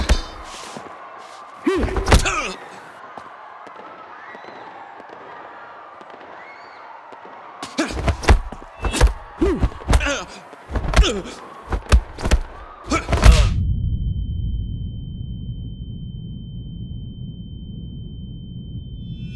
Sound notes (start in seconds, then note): 0.1 distant people screaming; 4.2 distant guns firing; 8.5 both moaning